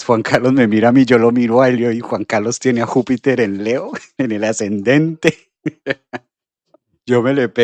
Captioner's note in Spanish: risas